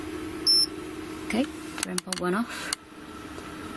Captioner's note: beeping